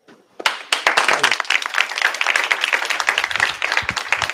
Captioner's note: applause